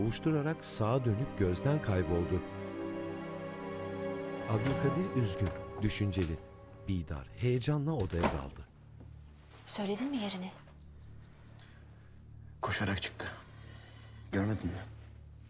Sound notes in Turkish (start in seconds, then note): 4.5 Kapı açılma sesi; 7.9 Kapı kapanma sesi